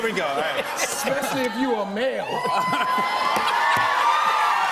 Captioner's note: cheers and applause